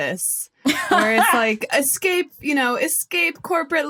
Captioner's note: laughs